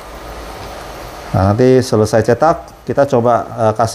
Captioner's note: printer machine noise